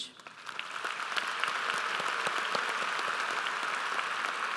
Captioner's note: audience applauds